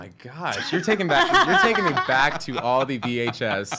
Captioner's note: laughing